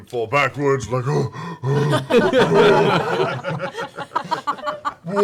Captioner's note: laughter